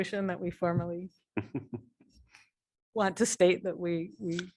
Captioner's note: laughter